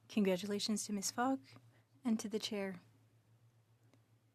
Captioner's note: speaking french